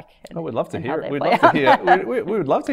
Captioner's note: woman giggling